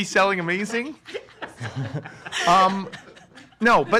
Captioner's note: giggling behind camera